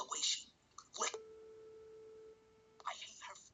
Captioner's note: beep